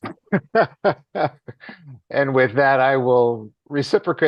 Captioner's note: laughs